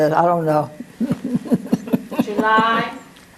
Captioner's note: laugh